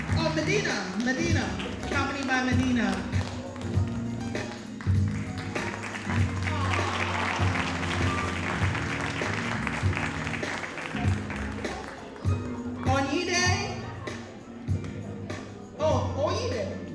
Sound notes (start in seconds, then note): 0.0 audience applauding; 5.2 audience applauding